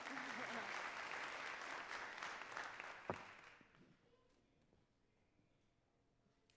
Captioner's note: audience cheering and clapping